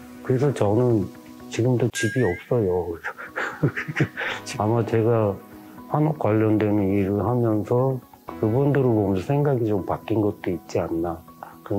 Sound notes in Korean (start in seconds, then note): 3.0 웃음